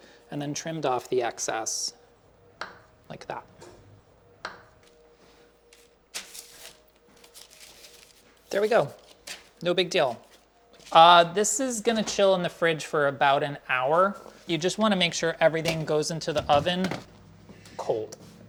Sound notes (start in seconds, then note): 4.6 knife hits chopping block; 4.7 parchment rustles